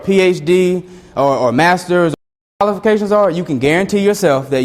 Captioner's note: audio skips